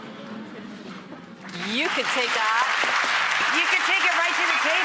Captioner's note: audience applause